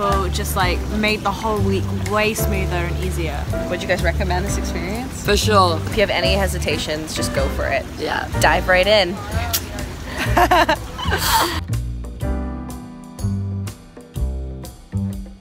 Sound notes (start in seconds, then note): 9.9 laughs; 11.6 jazz music